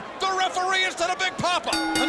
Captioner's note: bell rings